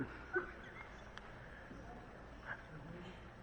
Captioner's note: laughter